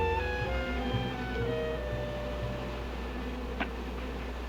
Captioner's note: buzzing